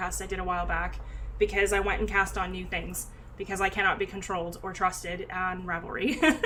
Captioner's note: laughs